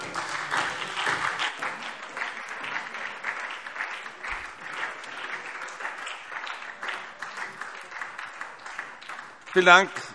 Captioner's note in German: Beifall SPD